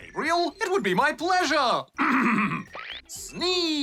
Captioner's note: clears throat